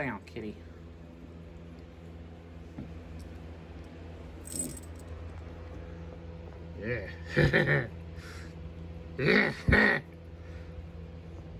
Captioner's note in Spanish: Risas malvadas